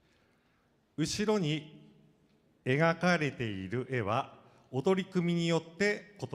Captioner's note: speaking foreign language